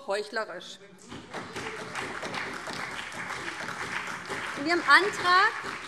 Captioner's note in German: Beifall